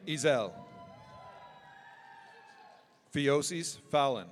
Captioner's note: audience cheering